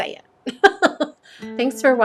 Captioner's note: laughs